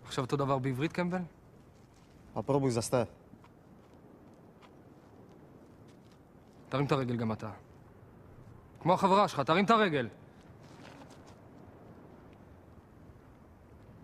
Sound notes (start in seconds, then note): 3.5 in Russian